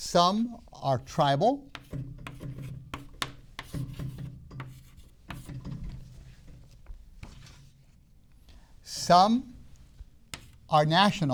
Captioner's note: writing sounds